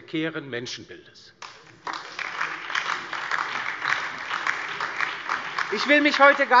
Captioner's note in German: Beifall DIE LINKE, BÜNDNIS 90/DIE GRÜNEN und SPD